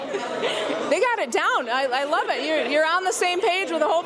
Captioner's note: laughter